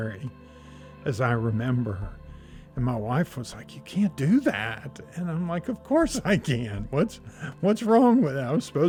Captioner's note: laughs